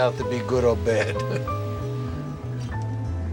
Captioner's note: chuckling